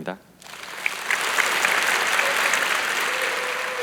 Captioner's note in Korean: 박수